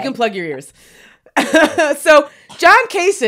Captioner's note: laughs